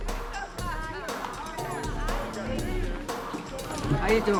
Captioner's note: people chattering indistinctly